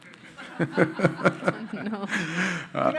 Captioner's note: crowd and panelists laughing